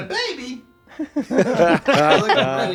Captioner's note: laughter